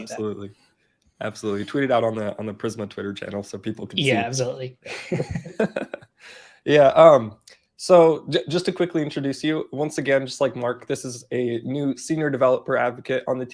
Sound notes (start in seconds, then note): 4.9 both laughing